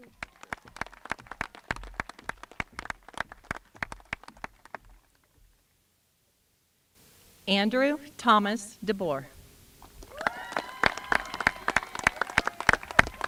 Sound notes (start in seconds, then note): 4.4 applause